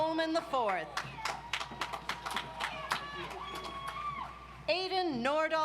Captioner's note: audience applauds